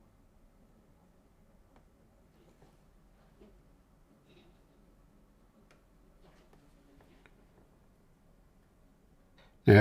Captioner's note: silence